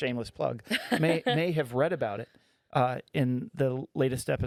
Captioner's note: laughing